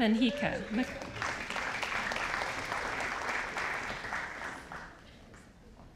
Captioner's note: audience applauding